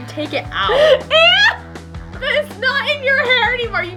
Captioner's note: laughs